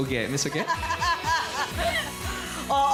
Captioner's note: giggles